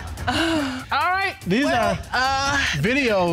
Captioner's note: audience laughs; moaning